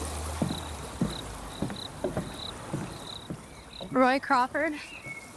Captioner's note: feet thudding